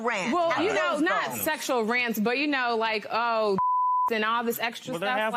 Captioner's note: none